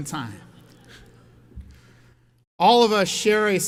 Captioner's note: audience laughs